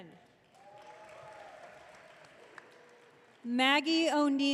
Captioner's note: audience cheering